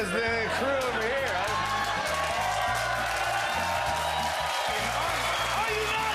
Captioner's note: cheers and applause